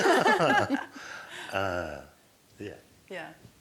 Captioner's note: laughter